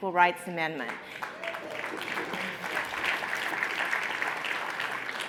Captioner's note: audience applauds